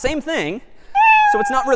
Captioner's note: meow